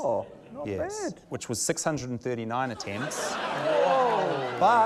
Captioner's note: laughter